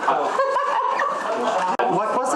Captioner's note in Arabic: كلاهما يضحك